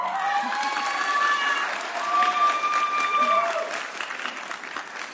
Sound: audience cheering

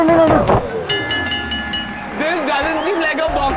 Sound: bell rings

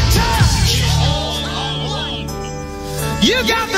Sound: group chant

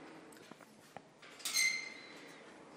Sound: squeaking

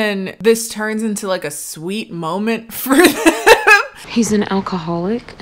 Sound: laughing

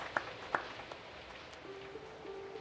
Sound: clapping

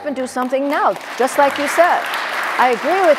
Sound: audience applauding

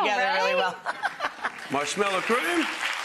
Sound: Rachael laughing; audience applauding

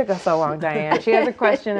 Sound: laughing

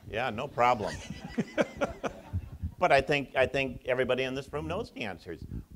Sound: audience laughs

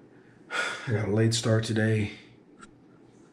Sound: sighs

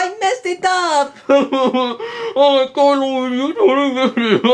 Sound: Mario mumbles

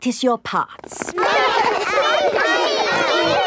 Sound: all laughing and chattering

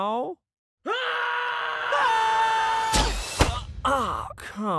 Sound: tom and old movie sonic both screaming at the same time; old movie sonic groaning in pain

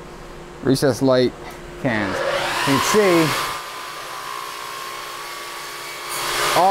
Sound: power tools rev loudly

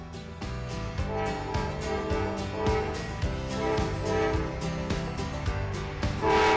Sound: train horn

